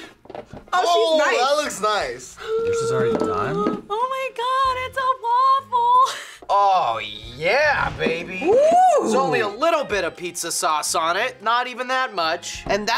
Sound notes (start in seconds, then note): 2.3 gasps; 6.1 laughs